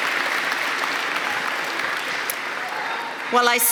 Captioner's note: applause